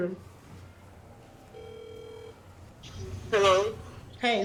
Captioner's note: phone rings